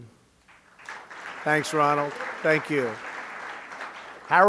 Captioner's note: applause